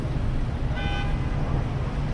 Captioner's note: distant car horn